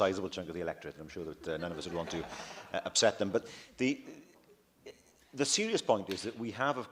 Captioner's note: laughter